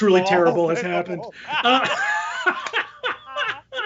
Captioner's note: laughing